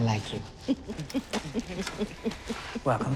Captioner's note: laughs